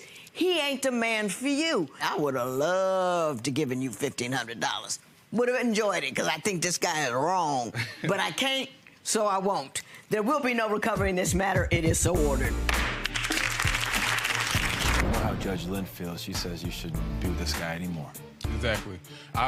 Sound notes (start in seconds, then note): 12.9 gavel bangs; 12.9 crowd applause